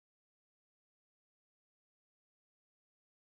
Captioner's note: none